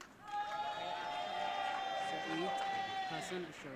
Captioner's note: audience cheering